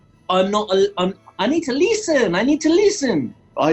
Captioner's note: accented